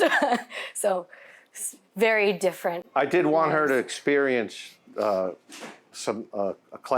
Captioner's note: laughs